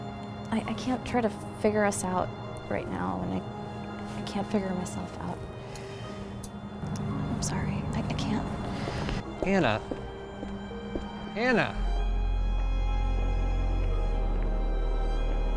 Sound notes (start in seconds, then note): none